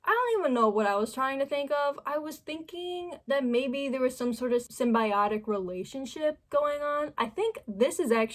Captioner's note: none